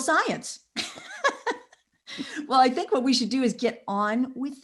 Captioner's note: laughs